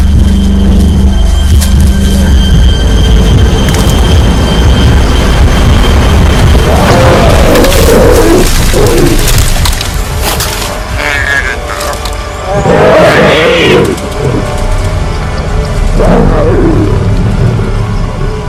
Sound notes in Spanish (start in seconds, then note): 1.5 grito